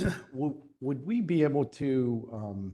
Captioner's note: cough